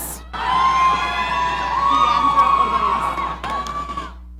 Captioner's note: audience cheering